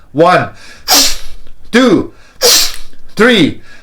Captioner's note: deep breaths; deep breaths